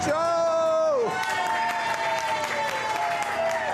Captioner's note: cheering